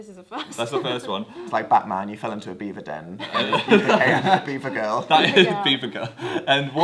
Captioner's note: laughs